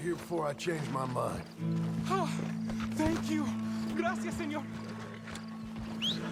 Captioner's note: sighs